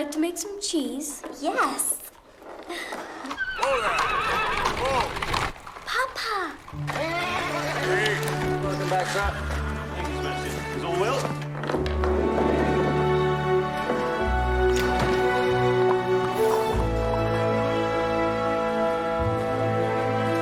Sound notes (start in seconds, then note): 0.0 Clara impersonating; 2.8 horse neighing; 6.8 horse neighing; 11.9 orchestral music